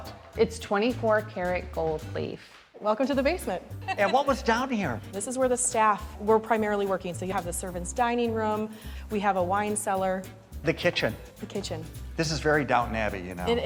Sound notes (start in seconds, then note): 3.8 laughs